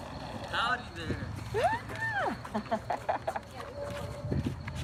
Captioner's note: laughs